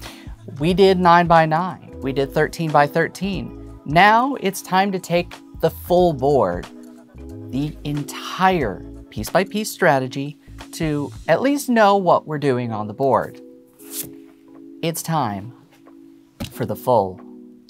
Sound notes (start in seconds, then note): 13.8 paper swishes